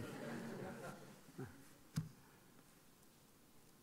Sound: laughing

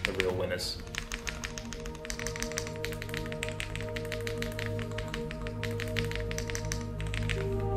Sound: dreamy music; keys clicking

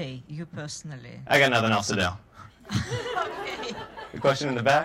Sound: audience laughter

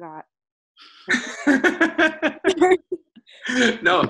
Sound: laughs

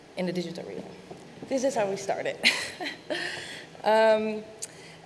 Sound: chuckles

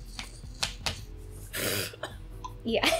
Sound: cough

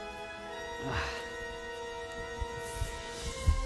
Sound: grunts

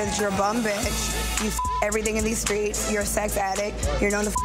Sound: beep; beep

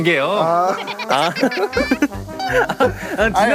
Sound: the cameraman bursts into laughter

